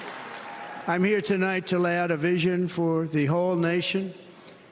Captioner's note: cheers and applause